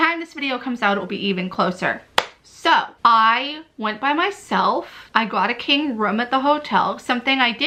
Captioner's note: clap